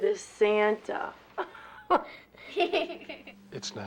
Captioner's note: all laugh